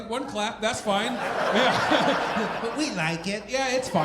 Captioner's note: audience laughing